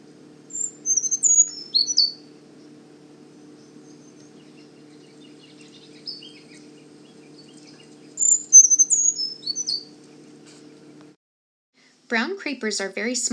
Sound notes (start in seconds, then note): 0.4 brown Creeper singing; 7.7 brown Creeper singing